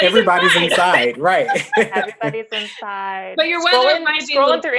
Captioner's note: laughter